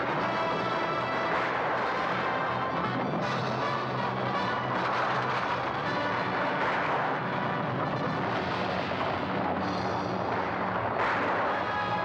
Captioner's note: dramatic music; hooves pounding; dramatic music; guns firing